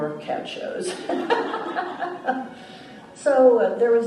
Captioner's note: laughs